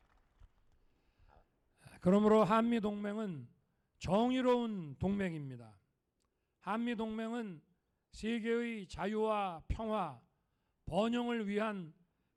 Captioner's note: applause; speaking non-english